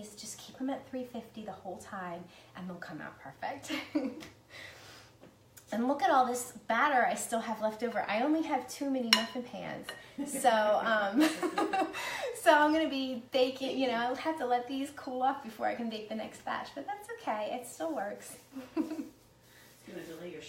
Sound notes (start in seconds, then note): 4.3 laughs; 10.4 laughs; 18.6 laughs